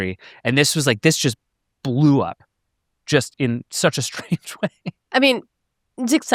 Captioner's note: chuckles